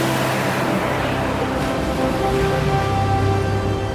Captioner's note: wind noise, engine, ocean